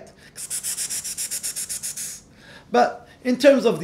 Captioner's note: hisses